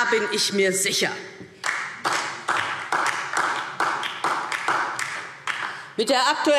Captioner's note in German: Beifall DIE LINKE